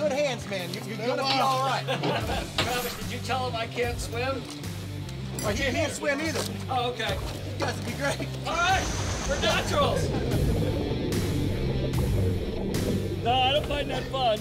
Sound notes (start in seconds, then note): 1.6 laughter; 10.3 water rushing